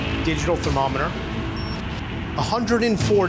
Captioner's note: thermometer beeps